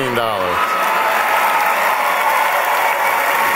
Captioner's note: applause